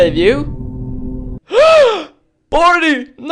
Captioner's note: gasp!